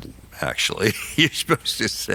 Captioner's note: laughs